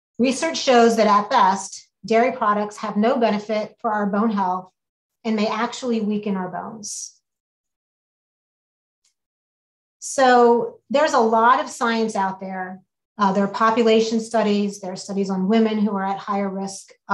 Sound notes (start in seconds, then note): none